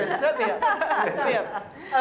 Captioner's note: laughter